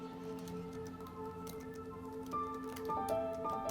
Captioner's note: typing clicks